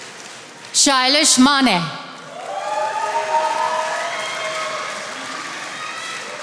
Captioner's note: attendees applauding